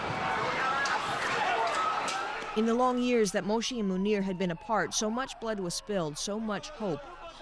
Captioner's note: bombing